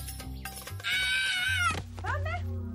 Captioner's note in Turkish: Bağırma sesi